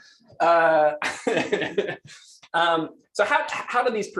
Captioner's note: laughter